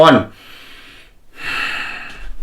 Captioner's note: exhales; inhales